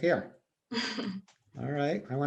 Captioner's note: laughs